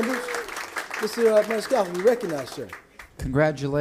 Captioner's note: applause